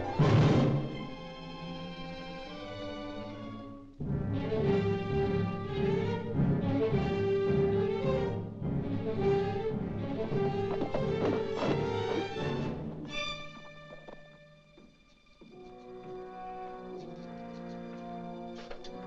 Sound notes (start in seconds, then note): 0.1 suspenseful music; 10.3 hooves pounding; 15.4 ominous music